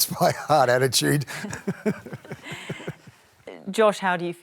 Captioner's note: laughs